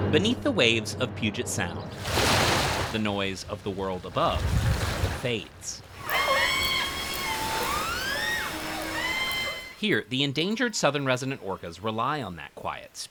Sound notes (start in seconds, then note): 5.9 orcas screeching